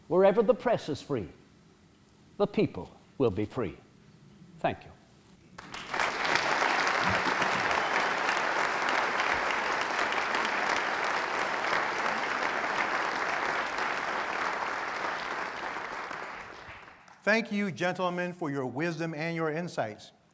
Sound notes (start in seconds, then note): 6.6 applause